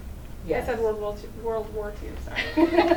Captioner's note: laughs